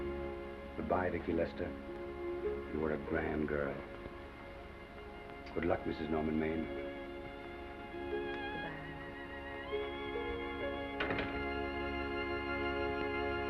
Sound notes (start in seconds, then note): 10.9 door closes; 12.0 sentimental music